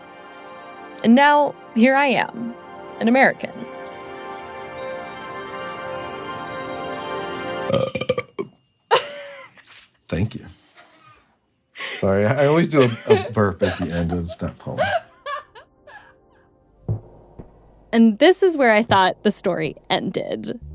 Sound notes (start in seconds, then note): 7.6 burps; 11.8 laughs